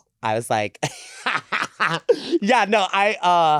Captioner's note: laughs